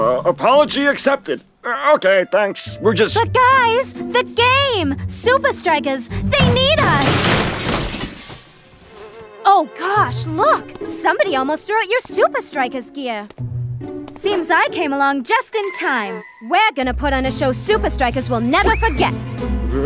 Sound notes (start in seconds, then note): 6.4 trashcan falls